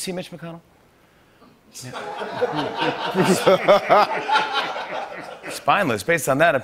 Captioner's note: laughter